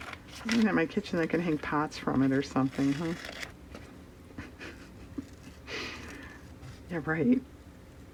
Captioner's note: laughs